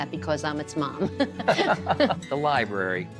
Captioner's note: both laughing